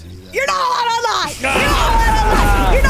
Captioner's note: thunder crashing